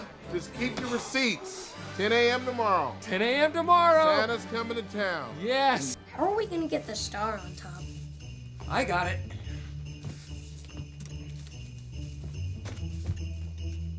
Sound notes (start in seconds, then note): 9.9 jingle bells ringing